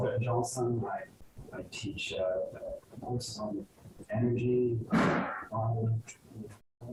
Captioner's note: static